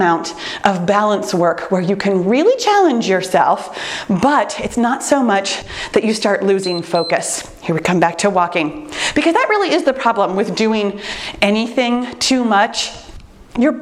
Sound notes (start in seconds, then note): 6.5 timer beeps